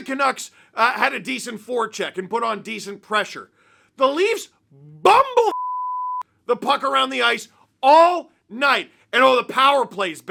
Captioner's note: beep